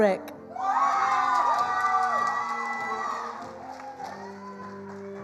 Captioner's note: attendees applauding